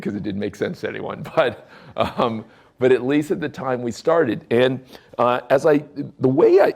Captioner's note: chuckles